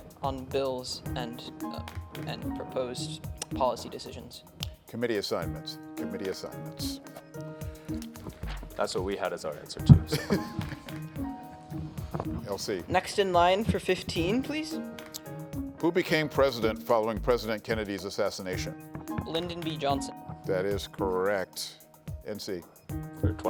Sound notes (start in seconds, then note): 11.6 laughs